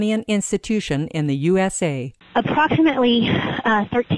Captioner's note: phone interview in English